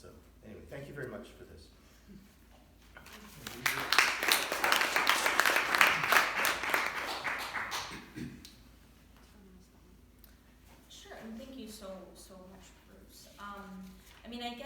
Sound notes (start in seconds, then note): 3.0 applause